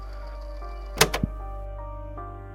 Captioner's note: click